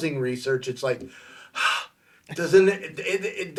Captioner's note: sighing